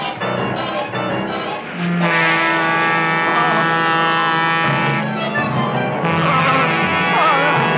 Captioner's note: train horn blaring; Seymour exclaiming